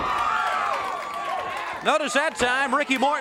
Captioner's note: crowd cheering